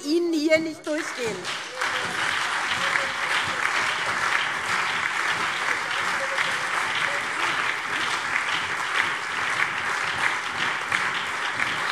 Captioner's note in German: Lebhafter Beifall SPD, CDU, BÜNDNIS 90/DIE GRÜNEN und DIE LINKE